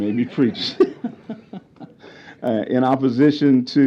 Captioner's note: laughter